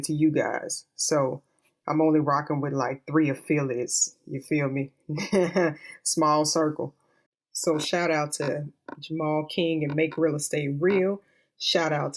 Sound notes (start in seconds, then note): 5.2 slight laugh